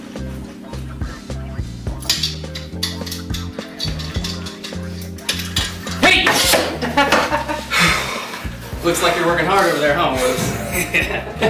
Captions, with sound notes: - Hey! (Laughing) Looks like you're working hard over there, huh, woods?